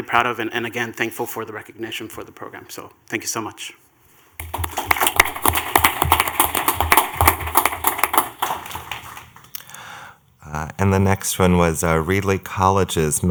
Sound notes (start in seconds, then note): 4.4 clapping